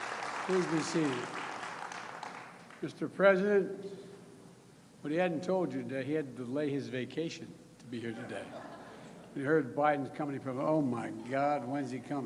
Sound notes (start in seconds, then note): 0.0 applause